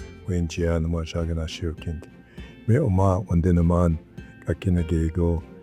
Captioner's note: speaking in Ojibwe language